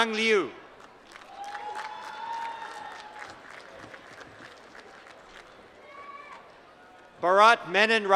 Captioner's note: applause